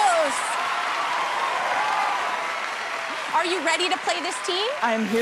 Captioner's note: cheers and applause